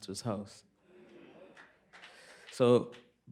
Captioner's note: applause